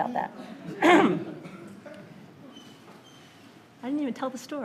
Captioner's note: light laughter